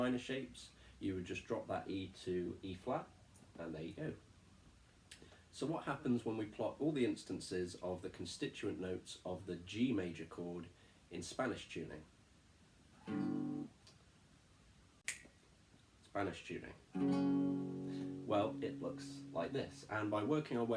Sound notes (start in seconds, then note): 13.0 strums; 13.8 click; 16.9 strums